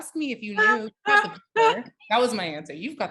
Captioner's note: laughing